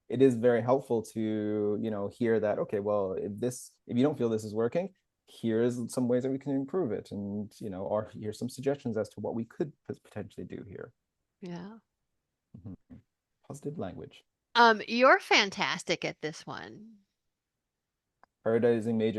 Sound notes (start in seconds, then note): 11.6 chuckles